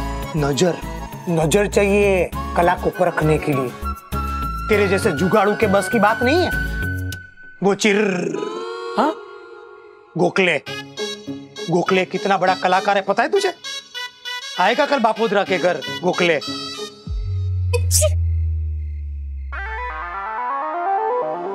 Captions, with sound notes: You need the insight to understand art. An unprofessional person like you would never understand. - It's made by Chi... - What? Gokhale! Do you know what a great artist Gokhale is? Gokhale will come to my house tomorrow. [sneezing]